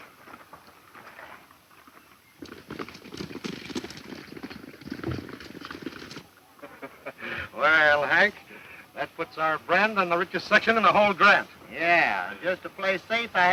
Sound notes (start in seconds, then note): 2.5 galloping hooves; 6.5 laughing